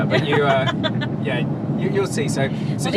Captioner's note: laughs